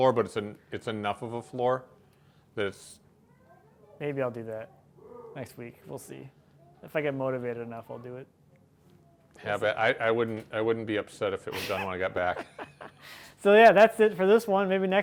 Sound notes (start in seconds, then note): 11.5 laughing